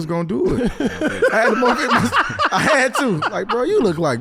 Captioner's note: laughs